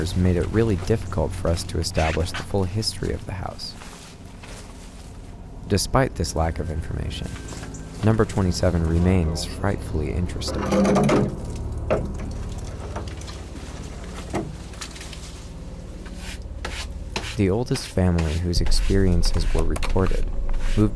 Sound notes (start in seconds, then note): 10.7 object rattling